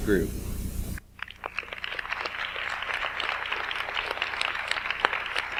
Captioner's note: audience applauds